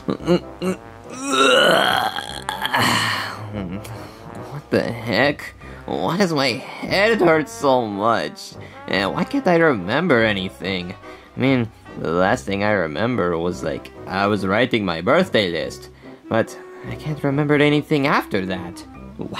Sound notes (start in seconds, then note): 1.1 clears throat